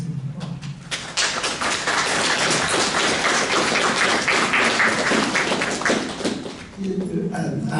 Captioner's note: applause